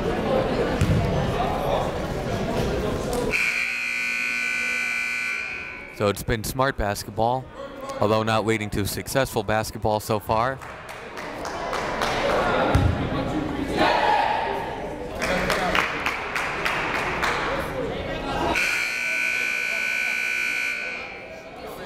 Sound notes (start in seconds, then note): 3.3 buzzer blaring; 10.4 players clapping; 18.5 buzzer blaring